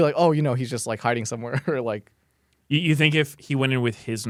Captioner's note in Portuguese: risos